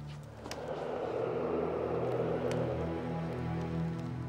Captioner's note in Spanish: viento silbando